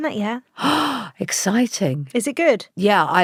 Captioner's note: gasps